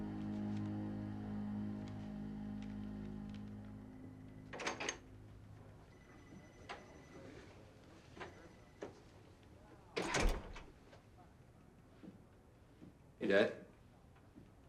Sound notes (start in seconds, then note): 10.0 door open close